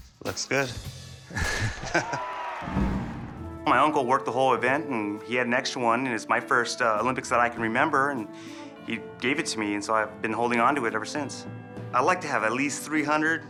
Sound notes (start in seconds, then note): 1.6 crowd cheers; 2.6 starting gun fires